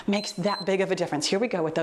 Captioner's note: timer beeps